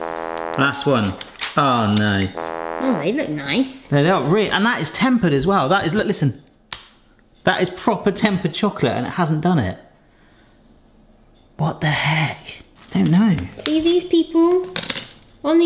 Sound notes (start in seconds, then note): 2.3 fail trombone honks; 6.7 chocolate snaps crisply